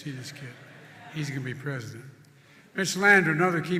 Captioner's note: laughter